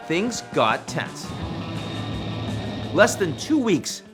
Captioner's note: upbeat music; aircraft swooshing